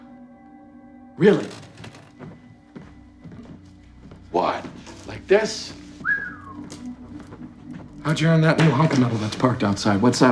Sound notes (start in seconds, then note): 6.0 Chuck whistles